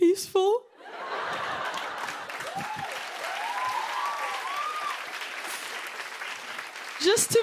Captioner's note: laughter, cheers, applause